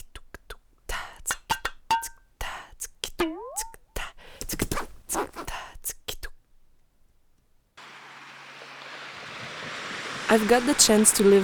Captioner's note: waves sound